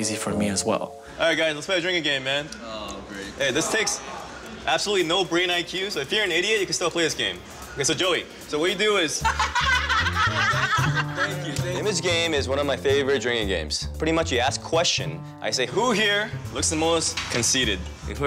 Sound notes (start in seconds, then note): 9.2 laughter